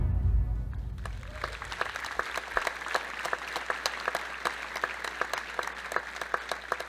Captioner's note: audience applauding